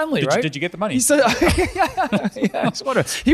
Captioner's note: laughs